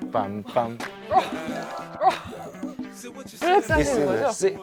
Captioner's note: heart bounces